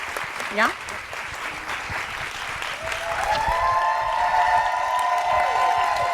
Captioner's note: audience cheering and applauding